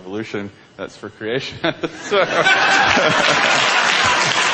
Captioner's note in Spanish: Risas